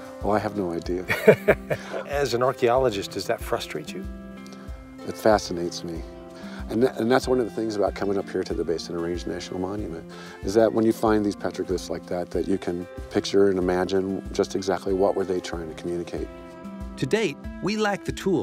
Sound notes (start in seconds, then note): 1.0 laughter